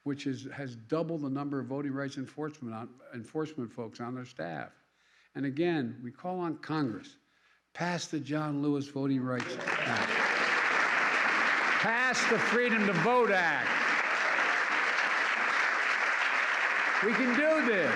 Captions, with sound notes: which is -- has doubled the number of voting rights enforcement on -- enforcement folks on their staff. And, again, we call on Congress: Pass the John Lewis Voting Rights Act. (Applause.) Pass the Freedom to Vote Act. (Applause.) We can do this.